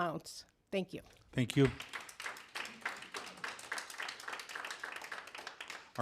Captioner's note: applause